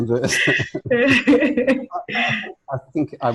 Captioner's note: laughs